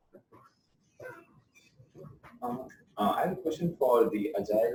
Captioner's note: pause